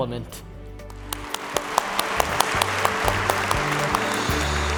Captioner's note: audience clapping